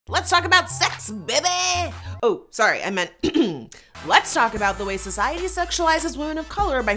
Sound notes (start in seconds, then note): 3.2 clears throat